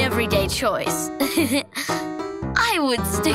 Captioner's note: chuckles